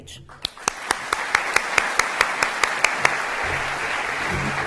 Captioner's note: applause